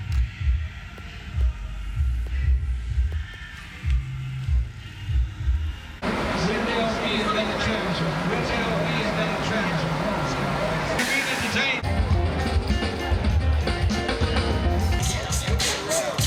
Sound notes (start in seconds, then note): 0.2 soul music; 7.0 crowd talks; 11.8 blues music